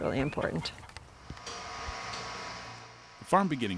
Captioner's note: device hums